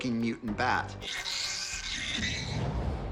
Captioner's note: screeching